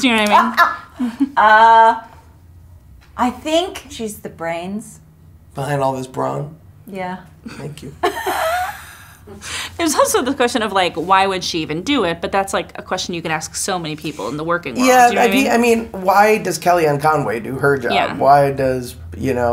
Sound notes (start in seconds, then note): 2.4 laughs; 8.1 laughs